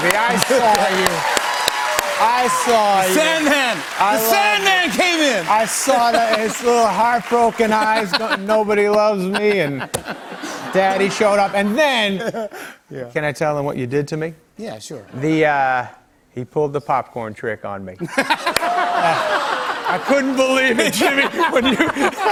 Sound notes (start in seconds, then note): 0.0 cheers and applause; 7.6 laughter; 18.0 laughter